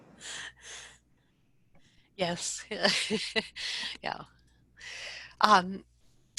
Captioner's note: laughs